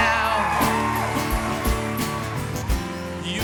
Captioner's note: cheers and applause